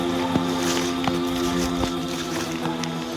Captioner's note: footsteps